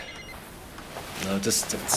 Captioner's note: phone ringing